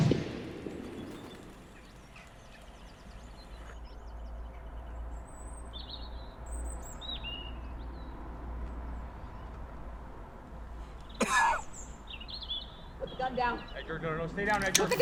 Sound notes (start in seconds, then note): 0.0 birds scattering; 11.2 cough